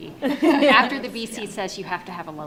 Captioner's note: panel laughs